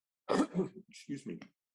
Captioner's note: coughs